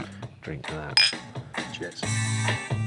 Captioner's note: glasses clink